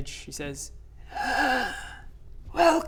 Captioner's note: raspy sigh